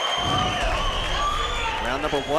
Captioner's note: audience cheering; whoosh sound effect